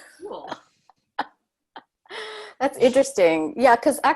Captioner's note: laughs